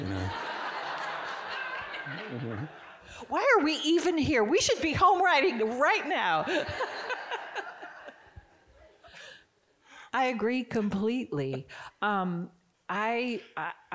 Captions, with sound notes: (audience giggling) - Why are we even here? We should be home writing right now. (chuckling) I agree completely.